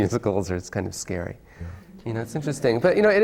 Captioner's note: laughs